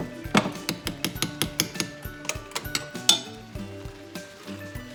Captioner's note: spoon clanging